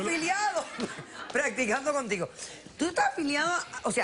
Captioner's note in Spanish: risas